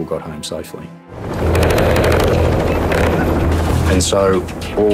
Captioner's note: helicopter whirring